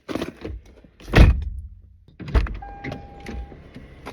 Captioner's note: door slams